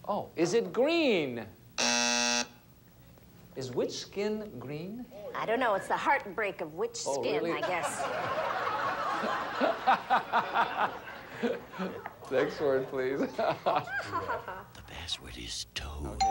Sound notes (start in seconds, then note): 1.7 buzzer sounds; 7.5 audience laughing